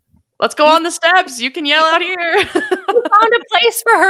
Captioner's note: laughing